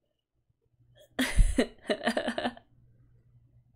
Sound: laughs

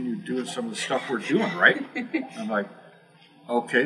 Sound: laugh

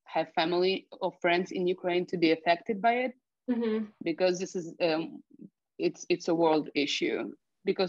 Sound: mhmm

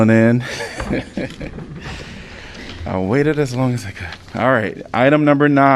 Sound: laughter

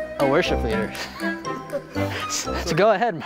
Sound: laughing

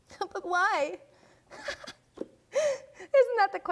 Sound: laughing

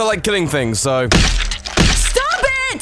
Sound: splat splat

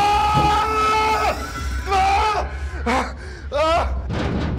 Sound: Adams screaming

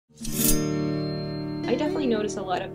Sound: slice sound effect

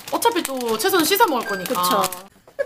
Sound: alarm

